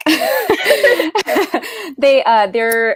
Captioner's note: laughs